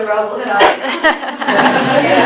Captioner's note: laughter